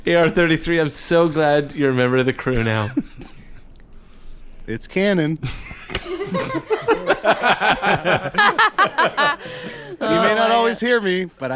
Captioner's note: all laugh